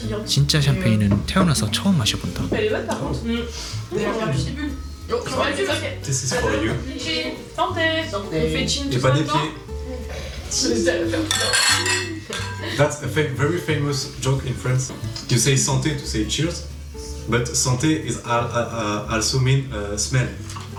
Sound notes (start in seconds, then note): 11.3 clinking glasses